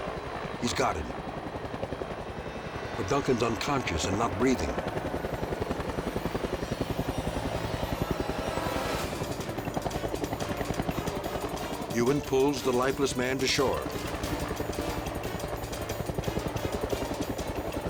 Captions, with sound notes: He's got him, but Duncan's unconscious and not breathing. (light dramatic music) (helicopter whirring) Ewan pulls the lifeless man to shore. (tense music)